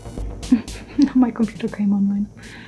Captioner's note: laughs